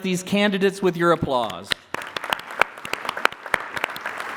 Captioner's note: applause